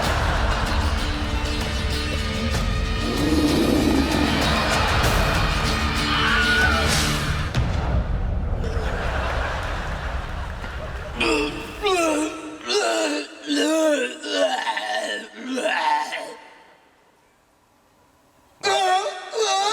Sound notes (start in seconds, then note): 2.9 bear growls; 11.2 groaning